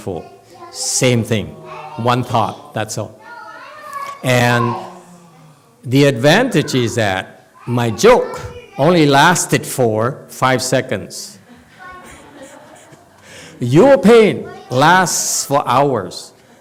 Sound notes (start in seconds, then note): 9.8 laughs